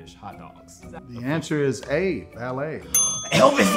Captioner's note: bell dinging